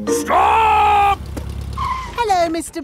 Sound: brakes squeal

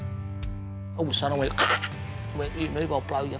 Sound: growls

